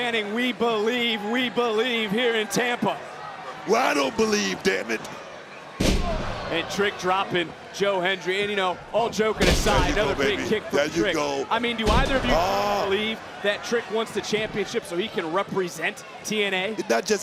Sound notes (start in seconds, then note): 5.8 body slams